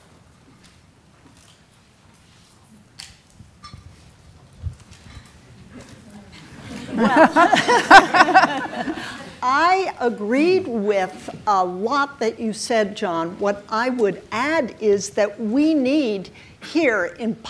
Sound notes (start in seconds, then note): 5.7 audience murmuring; 6.3 laughing